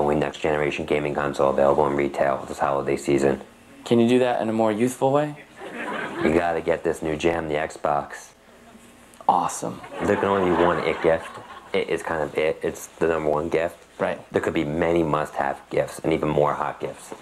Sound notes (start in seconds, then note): 5.5 audience laughs; 9.8 audience laughs